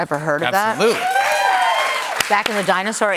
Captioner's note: cheers and applause